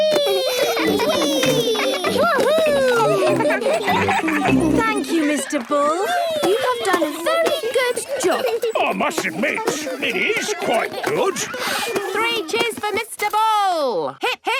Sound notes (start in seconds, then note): 3.9 giggling